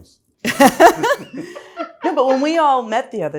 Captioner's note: laughs